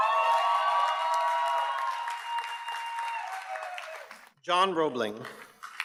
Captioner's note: audience cheers and applauds